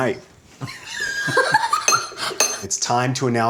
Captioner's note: laughing